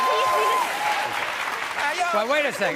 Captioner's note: audience cheering